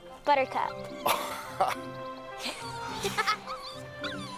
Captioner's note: both laughing